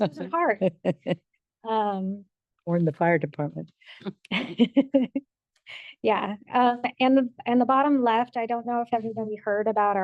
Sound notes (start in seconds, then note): 0.0 board member laughs; 4.3 laughs